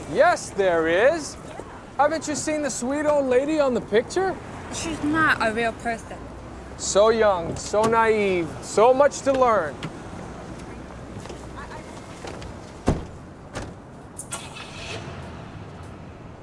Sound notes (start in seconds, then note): 13.4 closing of car door; 14.2 ignition of engine